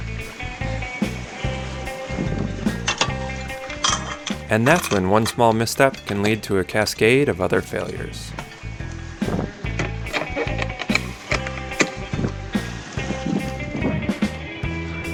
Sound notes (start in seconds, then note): 0.2 upbeat music; 4.6 chain clinking; 9.1 wind whooshing; 10.0 upbeat music